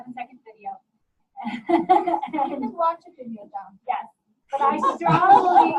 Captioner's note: overlapping laughter